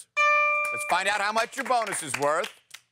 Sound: ding

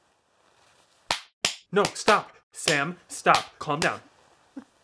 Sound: multiple loud slaps

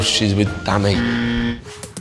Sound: incorrect buzzer

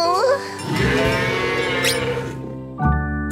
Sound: mooing

